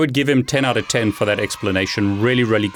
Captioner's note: children cheering